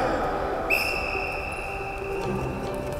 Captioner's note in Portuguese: Som de apito